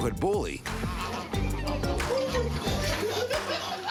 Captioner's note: laughter